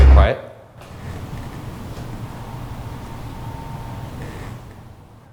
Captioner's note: light creaking